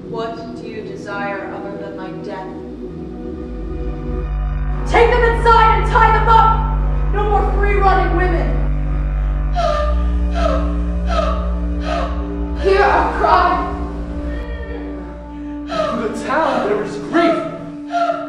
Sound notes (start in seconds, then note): 3.1 music changes; 8.6 Ismene and others breathing intensely underscores with the music